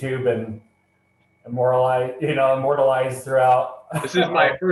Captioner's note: laughter